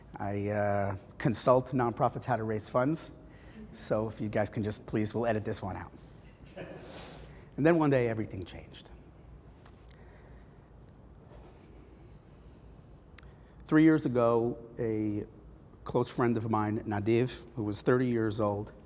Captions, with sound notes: I consult non-profits how to raise funds. So if you guys can just please let it this one out. [Audience Laughing] And then one day, everything changed. Three years ago, a close friend of mine, Nadev, who was 30 years old,